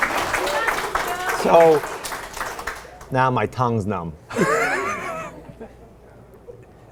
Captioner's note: audience applauds; laughs